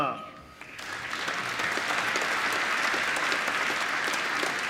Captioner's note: applause